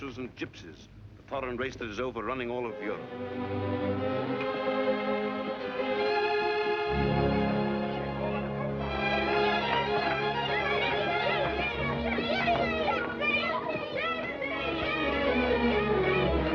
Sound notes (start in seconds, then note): 4.3 gentle music; 11.4 indistinct children chattering